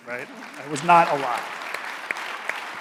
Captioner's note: audience applauding